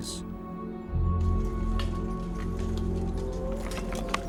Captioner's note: wood clanging